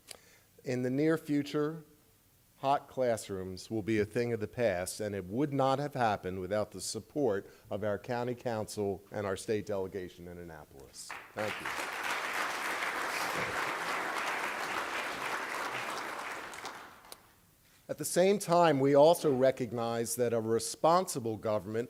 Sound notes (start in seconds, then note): 11.0 applause